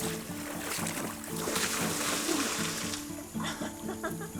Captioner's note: splashing; laughing